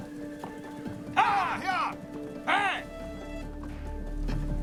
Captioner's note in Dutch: paarden hinniken; spannende muziek